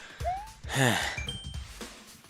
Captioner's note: sigh